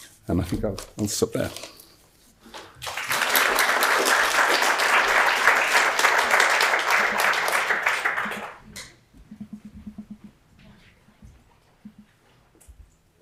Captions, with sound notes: And I think I'll stop there. (audience applauds)